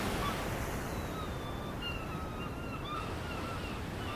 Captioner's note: birds squawking